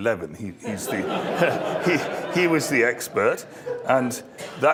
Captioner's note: laugh